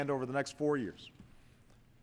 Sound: none

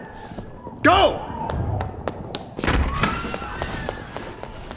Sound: running footsteps

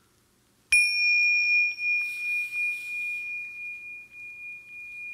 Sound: chimes ringing

